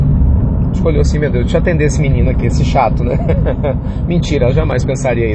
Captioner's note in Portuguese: risos